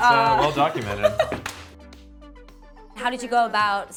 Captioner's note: laughing